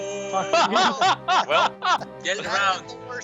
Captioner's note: laughing uncontrollably; uncontrollable laughing continues